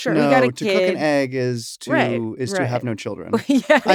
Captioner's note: laugh